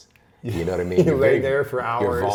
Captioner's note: laughs